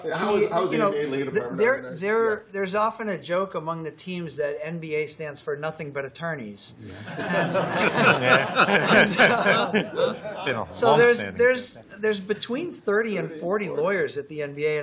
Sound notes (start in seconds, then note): 6.8 laughter